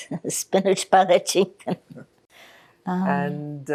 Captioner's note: laughing